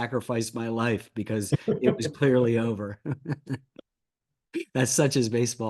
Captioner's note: laughs